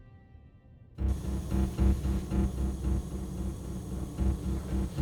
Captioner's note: gas hissing